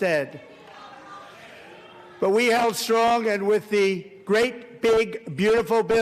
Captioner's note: applause